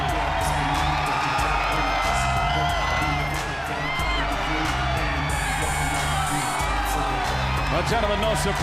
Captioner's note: crowd cheering